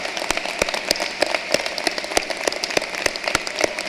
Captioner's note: applause